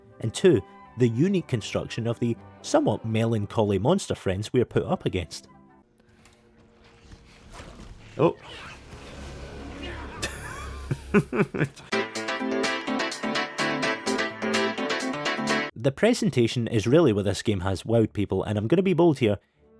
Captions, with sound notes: and two, the unique construction of the somewhat melancholy monster friends we are put up against. Oh. [LAUGHS] The presentation is really where this game has wowed people, and I'm gonna be bold here,